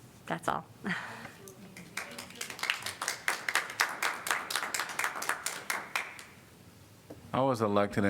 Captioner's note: applause